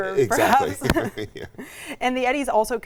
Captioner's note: laughs